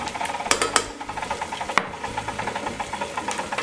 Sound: mixer whirring

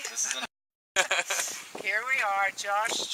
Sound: laughing

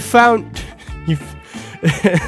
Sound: laughs

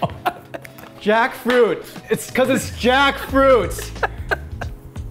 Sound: laughter

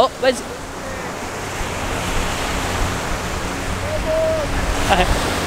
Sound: sound of waves

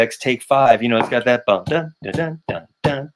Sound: mimics drum tapping

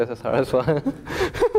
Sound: laugh

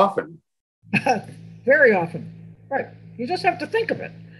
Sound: chuckles

